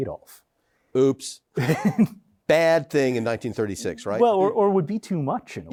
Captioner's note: laughs